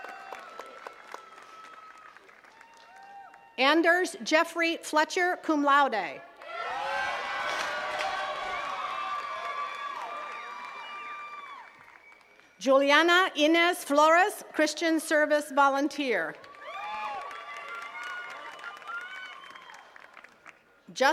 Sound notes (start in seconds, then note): 0.0 attendees cheering and clapping; 6.3 attendees cheering and clapping; 16.3 attendees cheering and clapping